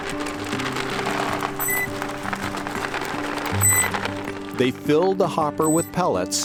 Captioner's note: drone beeping